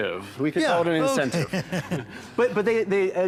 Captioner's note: chuckles